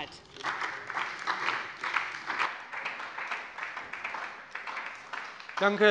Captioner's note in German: Beifall bei der SPD